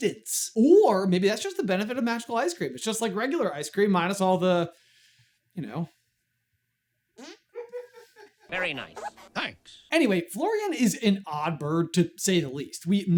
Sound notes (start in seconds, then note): 7.1 hand fart; 7.2 background giggling